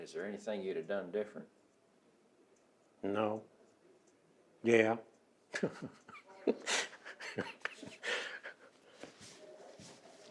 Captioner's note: laughing